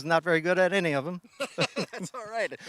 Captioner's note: laughing